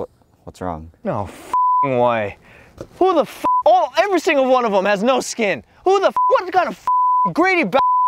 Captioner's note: excessive cursing